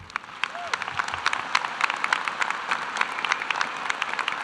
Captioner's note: cheering and applause